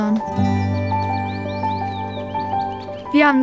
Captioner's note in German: Vogelgezwitscher